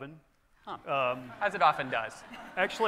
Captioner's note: audience laughing